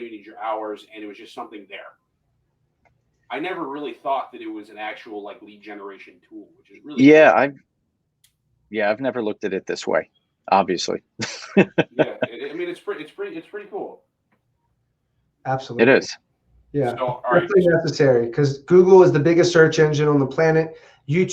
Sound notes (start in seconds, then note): 11.2 laughing; 17.7 voice muffling